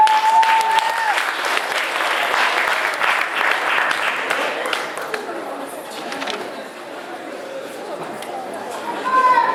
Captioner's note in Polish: Aplauz